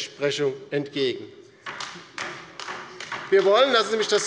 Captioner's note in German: Beifall bei der LINKEN